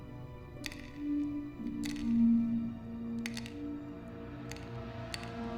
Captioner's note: medicines clatter